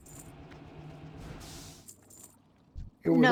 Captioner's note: footsteps